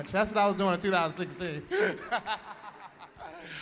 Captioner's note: laughter